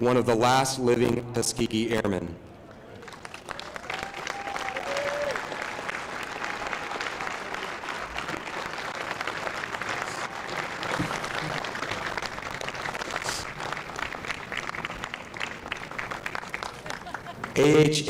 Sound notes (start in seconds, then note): 2.9 applause